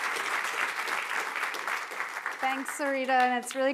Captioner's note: applause